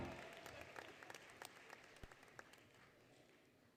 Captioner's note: applause, Cheering, Music; applause, Cheering